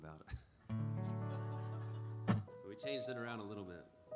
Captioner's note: laughter